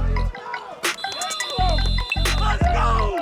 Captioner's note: whistle blows